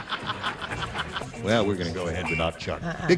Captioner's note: laughter